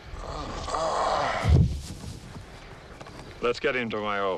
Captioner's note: Eli groans; ground thuds